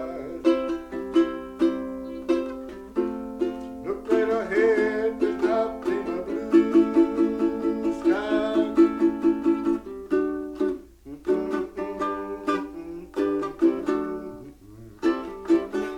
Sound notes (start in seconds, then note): 11.0 humming